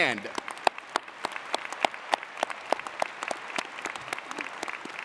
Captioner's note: audience applauding